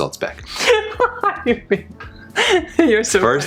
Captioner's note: laughter